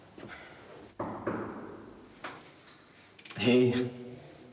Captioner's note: knocking